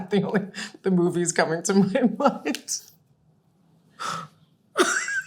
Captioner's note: laughing